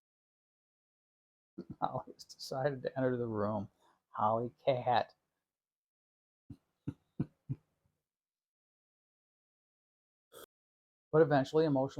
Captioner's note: chuckle